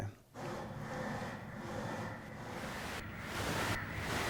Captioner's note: static pulsing